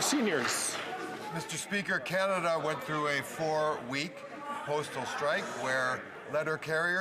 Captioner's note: some Applause